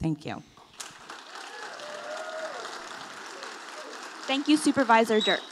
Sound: audience applauding

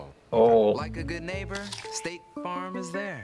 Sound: apple crunches

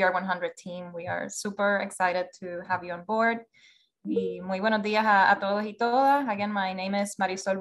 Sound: language other than English spoken, 0:03:38

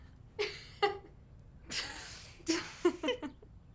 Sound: laughing

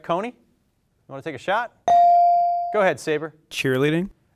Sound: bell dings

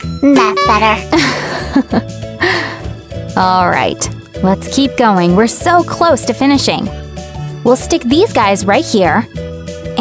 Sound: laughing

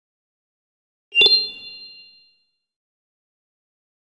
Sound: video game sound

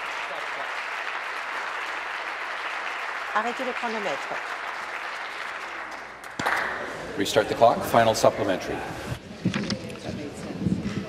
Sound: applause

